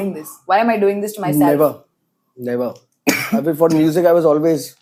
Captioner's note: coughs